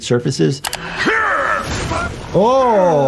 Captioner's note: Mauler clone grunting